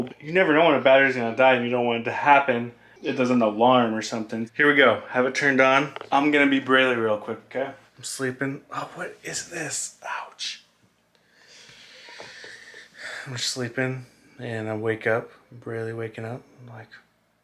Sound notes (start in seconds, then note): none